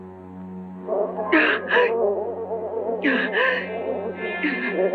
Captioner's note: gasping